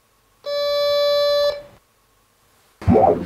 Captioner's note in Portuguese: Bipe